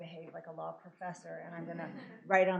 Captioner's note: laughter